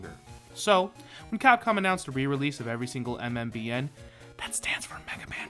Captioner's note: whisper